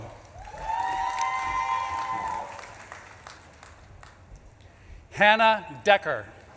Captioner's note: audience claps and cheers